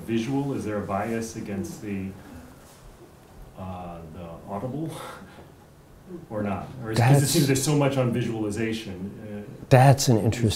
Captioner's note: chuckles